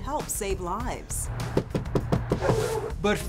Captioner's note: hand knocking